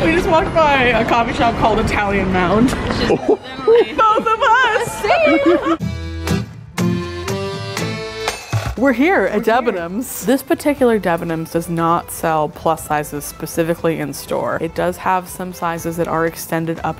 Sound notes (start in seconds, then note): 5.4 laughing